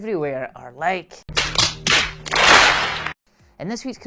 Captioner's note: slapping